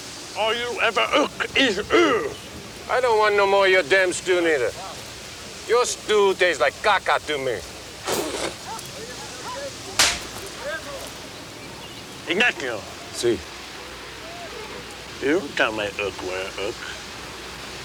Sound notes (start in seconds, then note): 8.0 Ignacio spits; 10.0 hand slaps